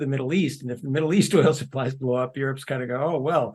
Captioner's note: laugh